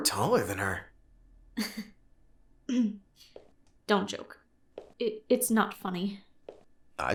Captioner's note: laughs